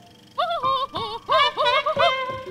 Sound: laughing; trumpeting laugh

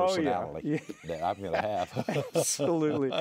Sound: laughs

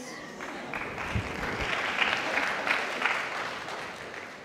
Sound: audience applauds

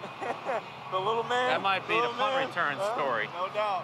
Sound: chuckles

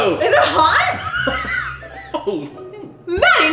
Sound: wheezing

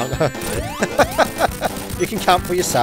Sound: laughs

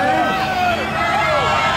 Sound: crowd cheering

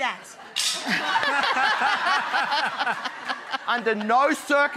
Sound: laughter

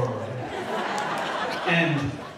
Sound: audience laughing

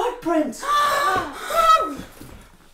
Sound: gasp

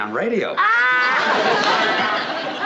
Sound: laughing loudly

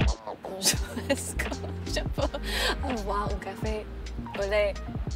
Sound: Madelaine speaks in French

